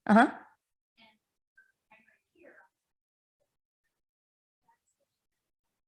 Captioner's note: none